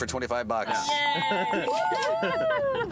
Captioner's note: bells ringing